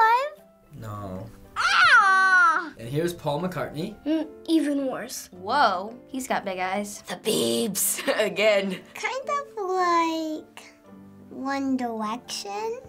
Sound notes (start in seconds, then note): 7.0 whispers; 7.9 chuckles